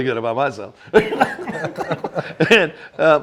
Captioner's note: everyone laughing